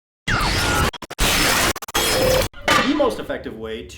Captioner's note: digital bytes whooshing